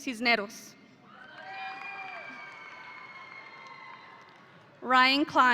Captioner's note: audience applauding